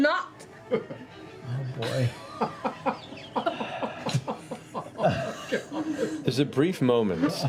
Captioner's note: laughter